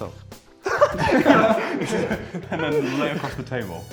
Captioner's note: laughter